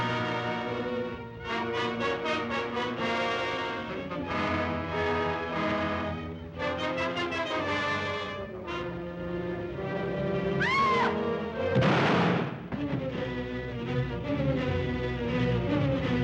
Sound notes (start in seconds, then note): 0.0 suspenseful music; 10.6 Eve screams; 11.7 gunshot; 11.7 thump; 14.1 suspenseful music